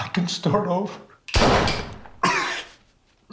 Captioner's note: gunshot echoing; Terry gasping and coughing